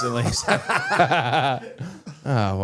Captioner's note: all laughing